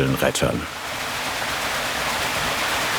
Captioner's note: water splashing